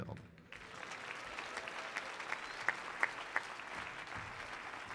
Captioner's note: audience applauding